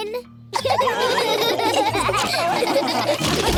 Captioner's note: laughter